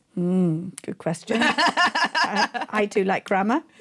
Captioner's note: laughing